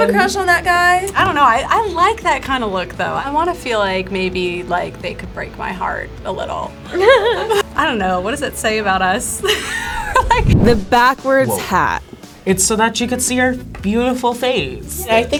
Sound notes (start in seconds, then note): 6.9 laughs; 9.4 laughs